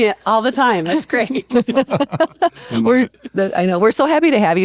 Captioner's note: laughter